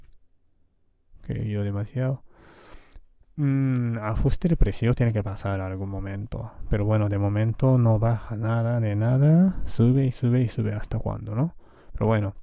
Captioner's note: Spanish